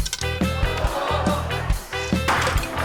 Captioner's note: audience exclaims